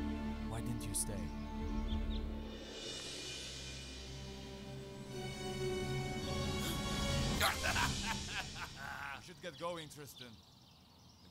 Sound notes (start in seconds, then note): 6.4 gasping; 7.3 man laughing